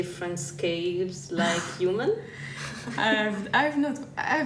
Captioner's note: laughter